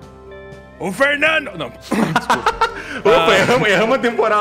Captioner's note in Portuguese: voz normal